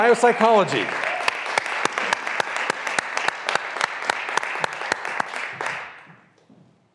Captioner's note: graduands cheering and applauding